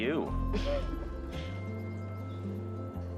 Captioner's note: Joe laughing